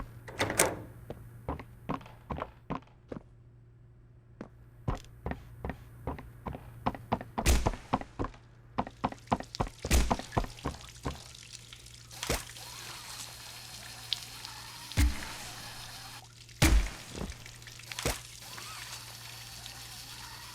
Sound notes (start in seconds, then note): 0.2 footsteps; 7.8 water running; 16.7 footsteps